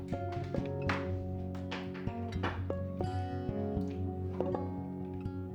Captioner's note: instruments cables hitting the floor